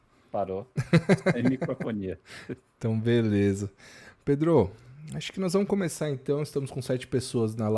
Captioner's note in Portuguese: risadas